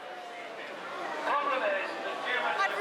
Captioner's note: protester chattering on megaphone